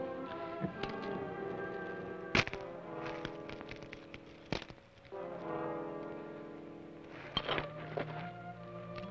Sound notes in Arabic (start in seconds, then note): 3.0 طقطقة الأغلال